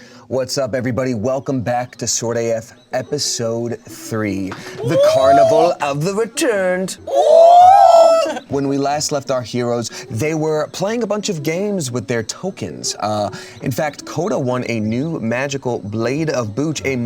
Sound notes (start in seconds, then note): 7.0 cast whooping